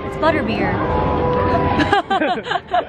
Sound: laughing

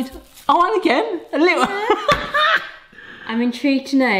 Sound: laughs

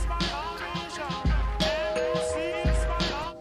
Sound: trap music; door bell

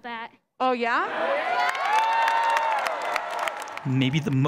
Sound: applause

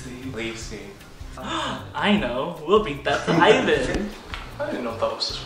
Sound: gasp

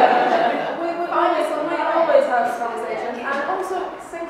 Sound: laughs

